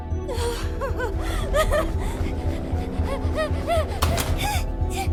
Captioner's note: gasps, whimpers; whimpering frantically